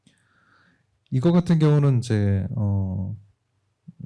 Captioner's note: speaking korean